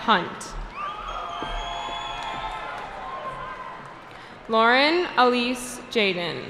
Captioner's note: cheering